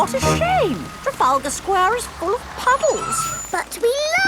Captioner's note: tires screeching